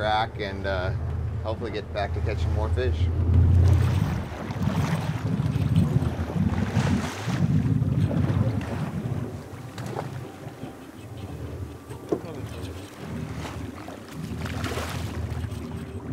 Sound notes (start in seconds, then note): 4.8 water lapping; 7.3 fish splashing; 12.9 background chatter; 14.9 fish splashing